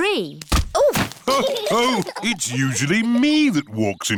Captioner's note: others laugh